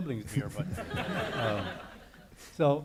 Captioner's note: audience laughing